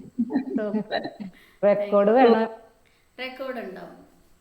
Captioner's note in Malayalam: പൊട്ടിച്ചിരി